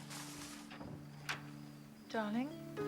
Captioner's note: door opens